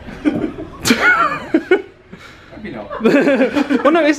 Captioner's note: both laughing